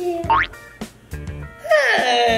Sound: boing

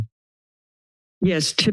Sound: silence

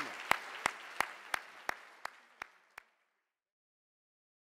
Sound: audience applause

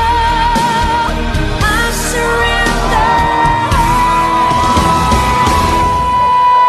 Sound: crowd cheers

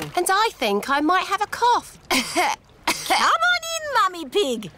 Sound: coughs

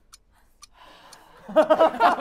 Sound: sighs; laughter

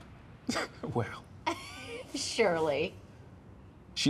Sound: laughs

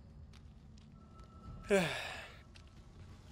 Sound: sigh

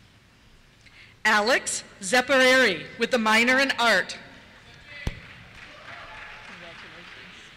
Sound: cheers

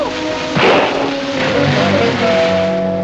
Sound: gunshot

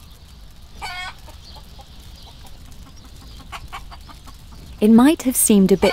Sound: chicken clucking

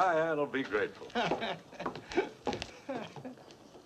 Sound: chuckles

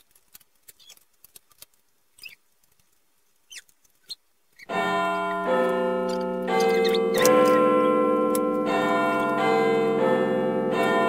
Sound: Big Ben chimes starting!

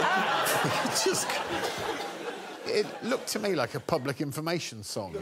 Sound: laughter

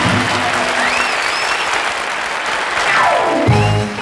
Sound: crowd applauds

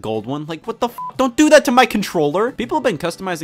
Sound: beep

